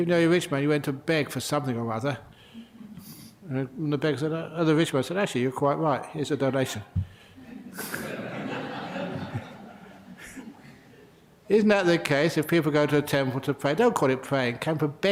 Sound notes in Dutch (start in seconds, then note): 10.8 lachen